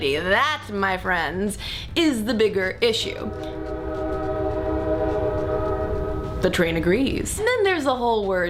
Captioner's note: train Whistle